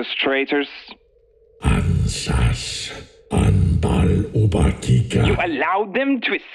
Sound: speaking Huttese

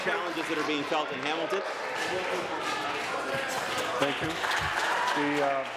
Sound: applause

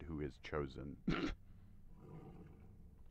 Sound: snort

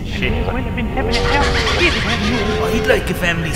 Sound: laughing

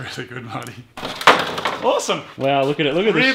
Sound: clatters

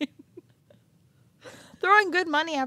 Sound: chuckling

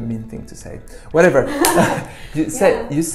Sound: claps

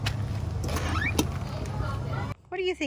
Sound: door creaks open

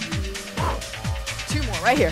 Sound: exhales

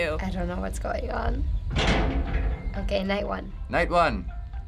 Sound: metal clank

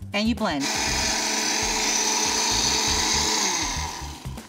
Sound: blender whirring

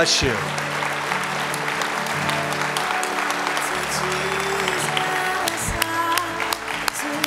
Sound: applause

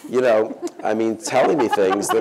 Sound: laughter

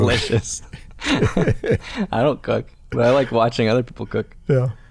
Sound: chuckle

